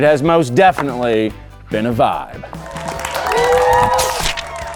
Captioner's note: audience cheering; upbeat music